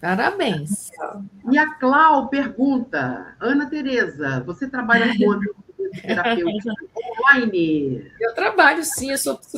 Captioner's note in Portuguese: risadas